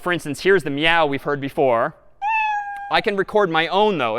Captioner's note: meow